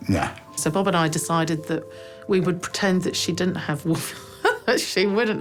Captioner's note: laughs